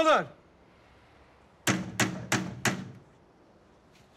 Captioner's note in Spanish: Toques en la puerta